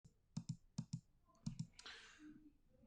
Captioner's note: mouse clicking